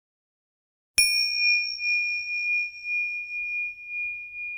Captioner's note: bell dinging